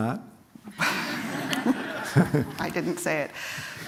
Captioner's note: laughter